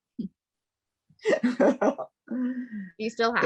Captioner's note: laughing